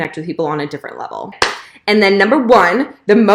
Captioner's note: clapping